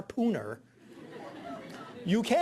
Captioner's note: audience laughing